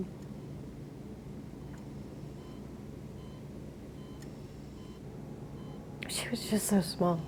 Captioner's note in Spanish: monitor pitando